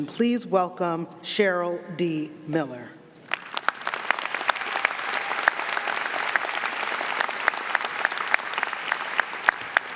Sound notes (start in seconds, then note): 3.3 audience applauding